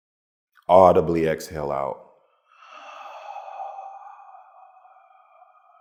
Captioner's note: slowly exhales